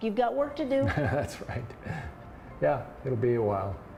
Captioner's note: laughing